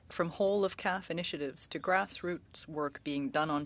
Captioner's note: speaking French